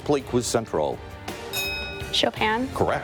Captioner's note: bell ringing